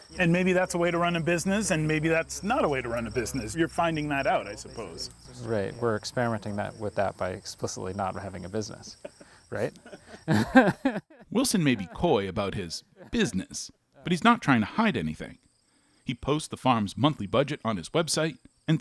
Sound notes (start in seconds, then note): 8.8 chuckles